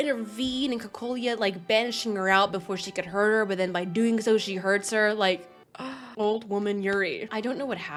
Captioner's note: gasps